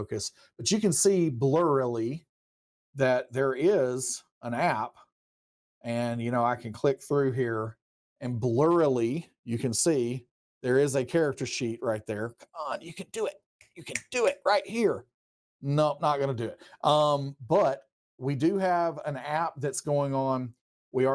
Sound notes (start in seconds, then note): 13.9 hand clicking